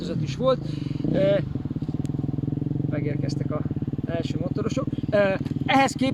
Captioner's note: braaap